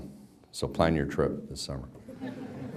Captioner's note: background laughter